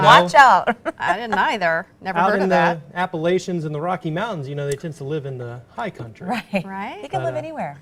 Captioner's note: laughter